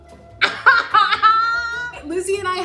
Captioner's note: Kiernan laughs